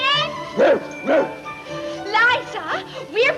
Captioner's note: barks twice